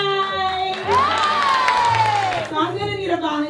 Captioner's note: audience applause